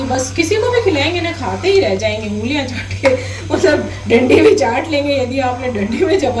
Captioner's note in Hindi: हंसी